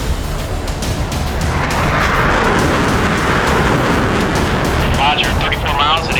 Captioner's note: dramatic music; jets blasting